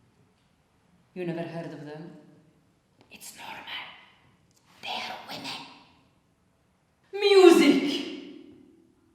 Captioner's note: whispered